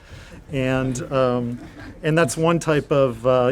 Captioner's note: audience chuckles